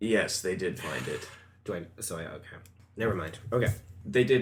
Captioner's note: sighs